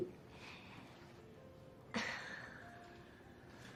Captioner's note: sighs